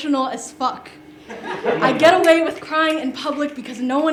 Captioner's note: laughter